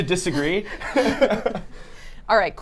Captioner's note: laughs